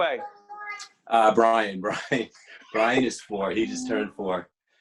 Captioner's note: laughing